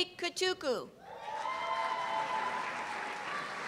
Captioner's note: cheers and applause